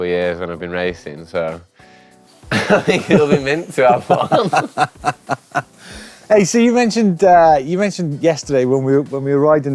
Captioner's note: laughs